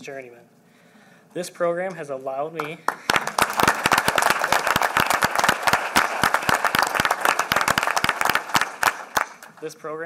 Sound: applause

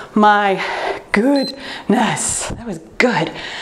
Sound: timer beeps

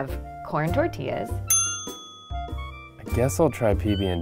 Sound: bell dings

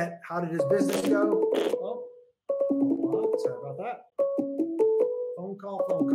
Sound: phone ringing

